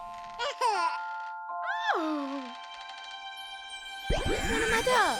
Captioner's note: baby coos; mother exclaims